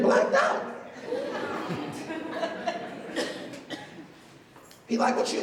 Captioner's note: laughter